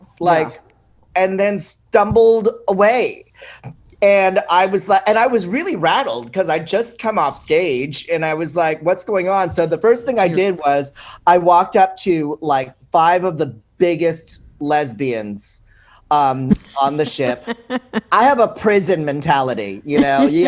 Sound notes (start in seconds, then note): 16.5 laughs